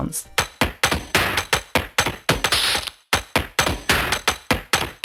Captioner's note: digital sounds